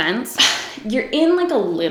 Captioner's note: scoffs